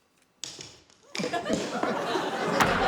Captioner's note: laughter; crack!